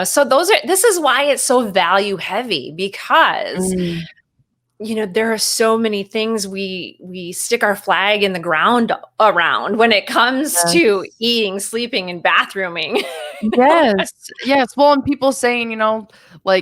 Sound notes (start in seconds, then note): 13.0 chuckles